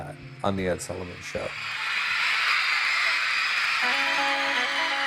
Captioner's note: audience screaming